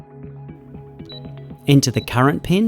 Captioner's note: keypad beeping